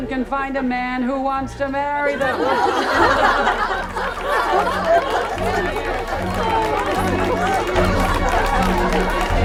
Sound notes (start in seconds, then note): 2.1 laughter